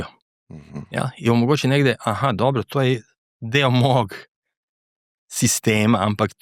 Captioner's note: clears throat